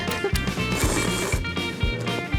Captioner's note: slurp slurp